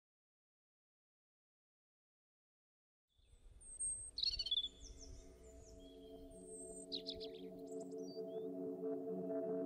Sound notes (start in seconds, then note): 5.6 birds chirping